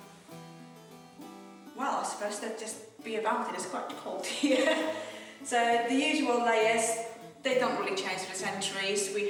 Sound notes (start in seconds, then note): 4.2 woman chuckles